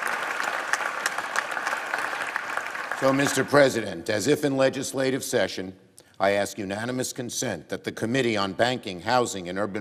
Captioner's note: apapplplauausese